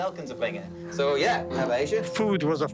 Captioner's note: speaking foreign language